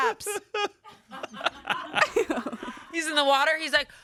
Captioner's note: laughing